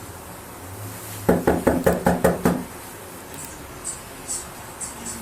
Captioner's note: landlord knocks on door